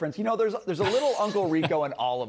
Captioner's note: laughter